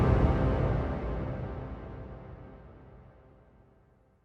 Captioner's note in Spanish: Explosión